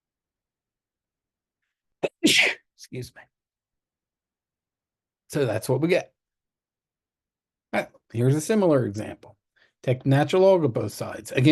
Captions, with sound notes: [SNEEZE] Excuse me. So that's what we get. Here's a similar example. Take natural log of both sides.